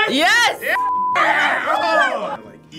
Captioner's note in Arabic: صافرة